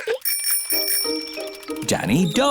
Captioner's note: bicycle bell rings